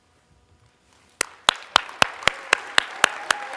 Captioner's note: applause